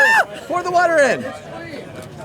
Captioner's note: scream